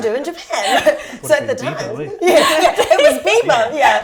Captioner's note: laughter